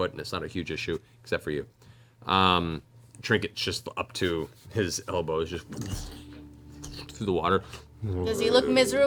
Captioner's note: sloshing